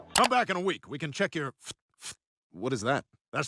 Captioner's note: Dr. Hartman makes puffing noises